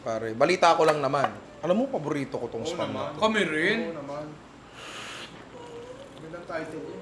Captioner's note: slurps